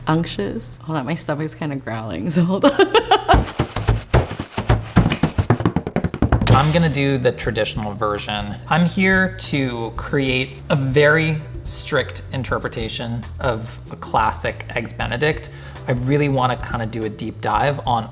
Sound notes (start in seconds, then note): 2.6 laughing; 3.2 rhythmic drumming